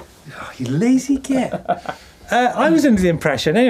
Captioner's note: laughing